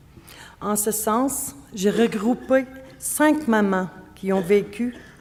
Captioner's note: speaking French